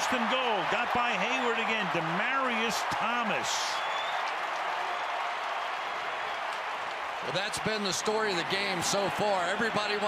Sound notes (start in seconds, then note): 4.3 crowd cheering